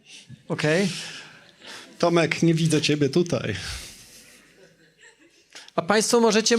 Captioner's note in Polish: śmiech